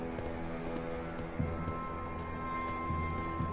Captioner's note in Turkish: Ayak Sesleri